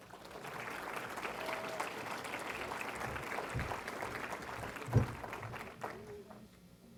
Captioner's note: applause